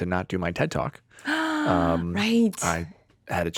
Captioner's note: gasping